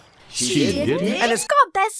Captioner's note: crowd